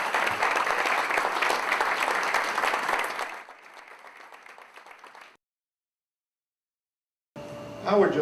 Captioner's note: applause